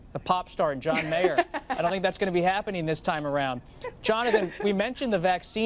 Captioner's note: laughter